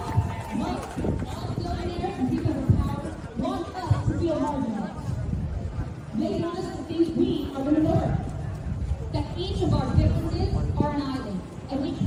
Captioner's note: cheering